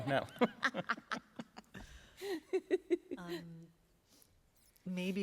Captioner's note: laughter